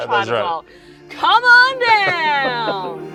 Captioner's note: chuckles; mellow music